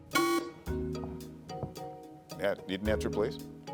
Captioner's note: buzzer sounding